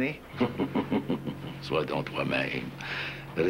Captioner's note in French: Rire